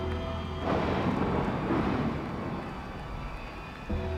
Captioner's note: thunder rumbles